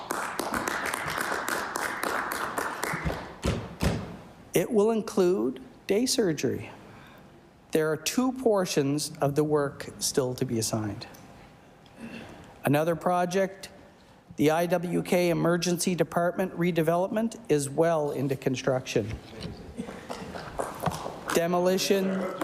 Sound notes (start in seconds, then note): 3.5 applause